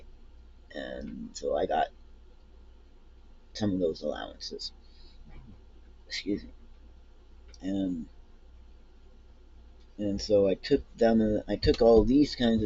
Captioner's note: burp